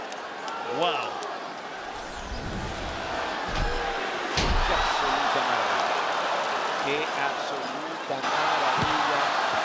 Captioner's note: applause